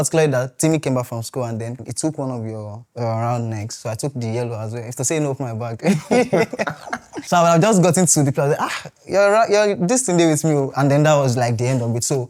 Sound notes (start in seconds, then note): 5.8 laughs